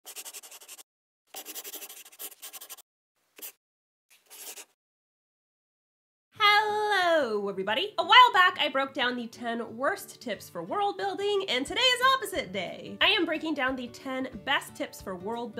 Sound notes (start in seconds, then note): 1.3 the sound of a pen scratching